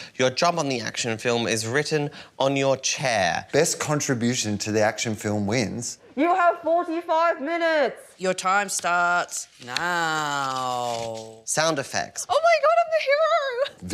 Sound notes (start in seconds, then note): none